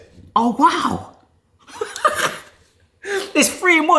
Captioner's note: laughs